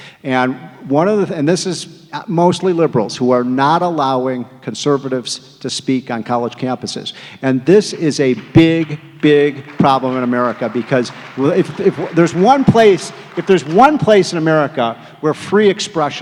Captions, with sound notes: And one of the, this is mostly liberals who are not allowing conservatives to speak on college campuses. [applause] And this is a big, big problem in America, because if there's one place, if there's one place in America where free expression